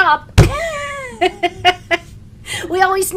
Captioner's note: laughing